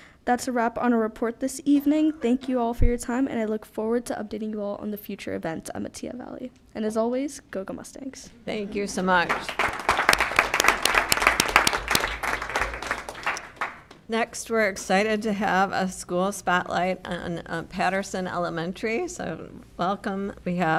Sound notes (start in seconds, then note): 9.2 applause